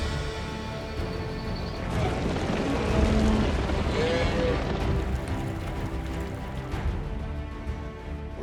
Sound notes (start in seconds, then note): 3.1 cattle moo